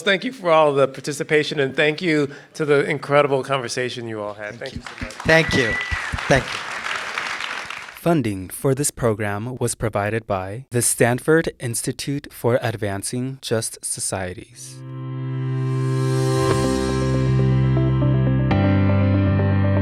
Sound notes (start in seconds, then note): 6.6 participants clap; 14.8 bright music